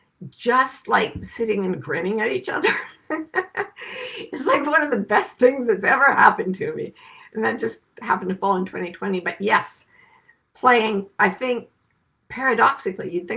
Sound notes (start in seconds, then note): 2.6 laughs